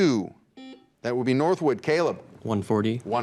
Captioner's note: buzzer beeps